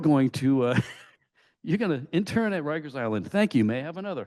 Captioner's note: laughs